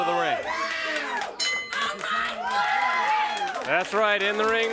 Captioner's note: crowd cheering; bell rings